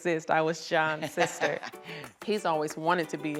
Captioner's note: laughs